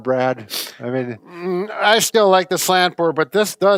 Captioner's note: sighs